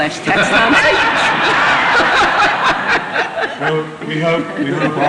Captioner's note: laughter